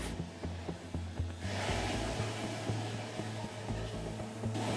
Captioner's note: toilet flushing